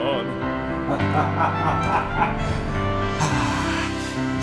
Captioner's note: laughing